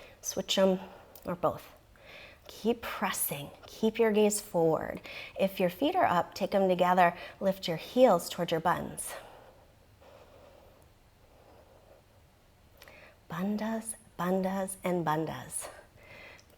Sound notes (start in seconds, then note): 10.0 exhales